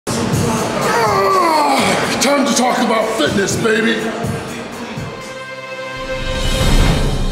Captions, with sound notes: (grunting) - Time to talk about fitness baby. (tense music)